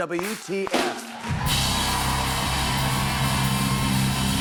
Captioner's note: cheers and applause